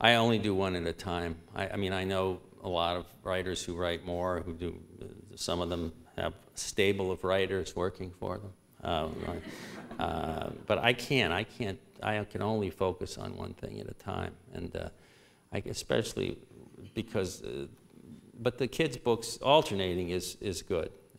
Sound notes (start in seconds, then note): 9.0 laughter